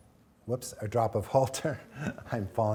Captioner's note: chuckling